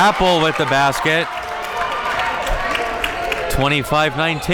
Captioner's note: audience cheering